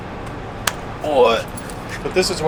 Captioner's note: grunts